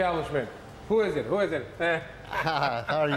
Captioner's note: laughs